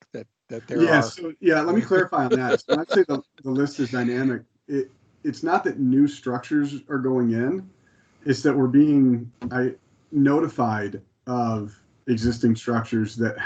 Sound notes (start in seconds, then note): 1.4 laughs